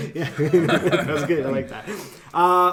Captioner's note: men laugh